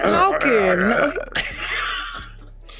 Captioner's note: mimics growling noises; both laugh